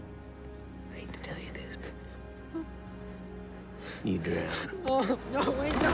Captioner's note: screaming